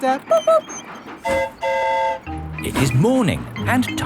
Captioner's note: mimics train whistle; train whistle toots